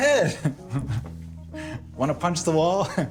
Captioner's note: laughing